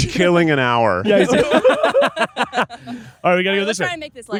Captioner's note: group laughing